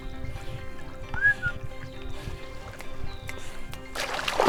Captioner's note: man whistles